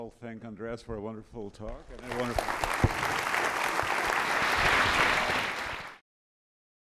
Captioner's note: applause